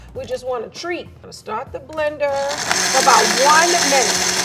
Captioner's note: blender whirring